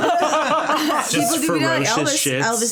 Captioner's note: all laughing